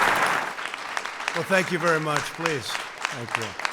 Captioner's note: applause